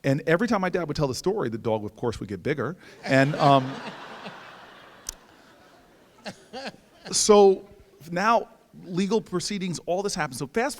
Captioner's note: audience laughs